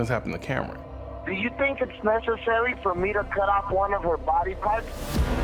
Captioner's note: man on the phone